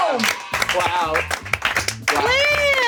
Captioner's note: everyone applauds